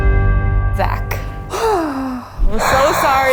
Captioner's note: gasping